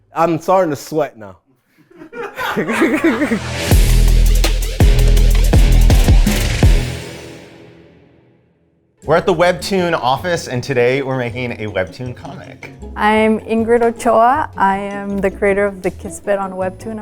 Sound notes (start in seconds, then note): 1.8 all laughing; 2.8 upbeat music